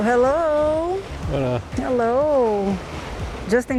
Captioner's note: in Portuguese